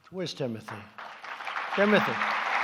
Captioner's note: applause